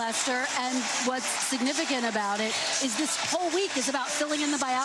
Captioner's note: applause